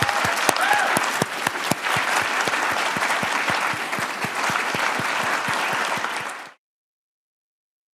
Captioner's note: audience applause